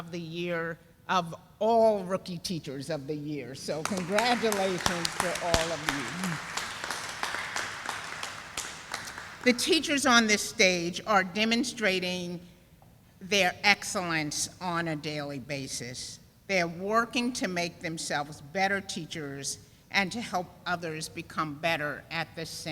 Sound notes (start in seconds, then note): 3.8 sound of applause